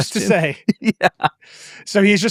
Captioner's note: laughs